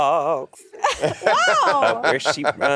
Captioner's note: Monét laughing